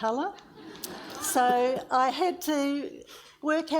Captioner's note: audience laughs